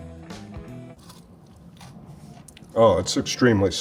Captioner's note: pepper crunches